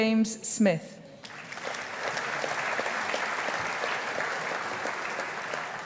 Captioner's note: audience applauding